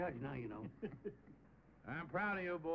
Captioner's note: laughing